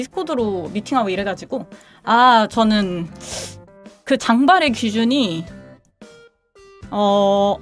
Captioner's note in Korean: 콧방귀